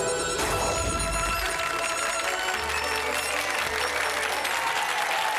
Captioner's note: audience clapping